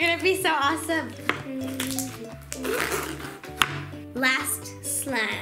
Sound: humming

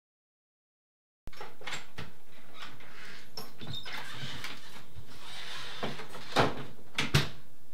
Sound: door opens, then closes

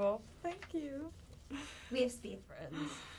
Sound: breath

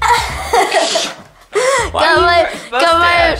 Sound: laughing

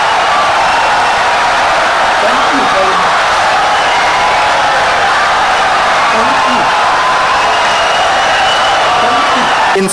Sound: wild applause and cheering for 17 seconds

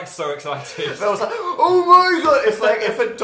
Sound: gasp

